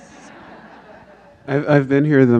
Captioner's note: audience laughs